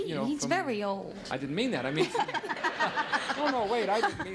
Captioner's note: laughing